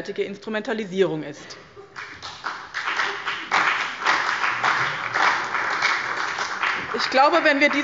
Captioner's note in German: Allgemeiner Beifall